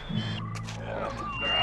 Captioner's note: whistle